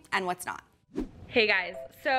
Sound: screen whooshing

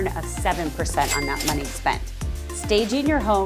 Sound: cash register ringing

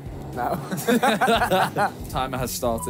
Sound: laughing

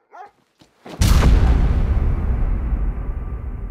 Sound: Willamina barking; gun firing

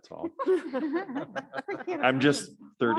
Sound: panelists laughing

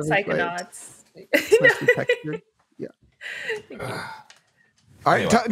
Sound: laughs

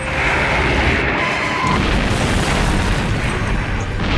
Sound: whooshing; booming

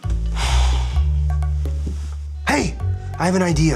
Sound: sighs

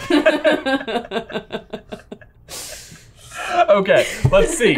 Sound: laugh

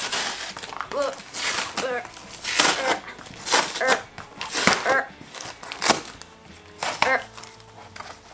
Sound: strange noises of effort

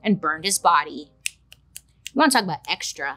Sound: Bailey clicking fingers

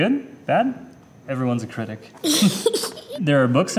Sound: laughing

